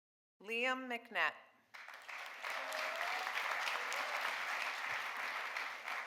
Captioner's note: audience applauding